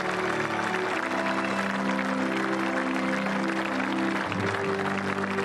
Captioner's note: applause